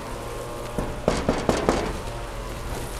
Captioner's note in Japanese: ノックノック